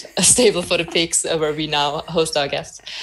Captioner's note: laughs